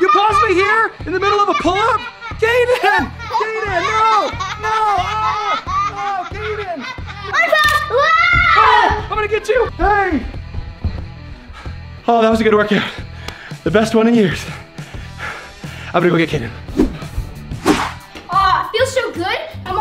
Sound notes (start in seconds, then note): 16.6 air whooshes